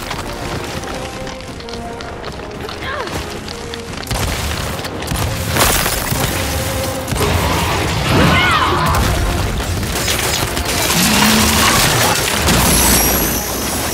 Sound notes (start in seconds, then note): 4.3 gunshots